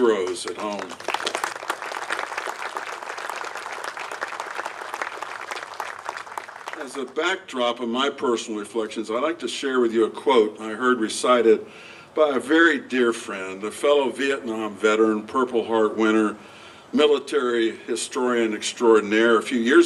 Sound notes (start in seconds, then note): 0.0 applause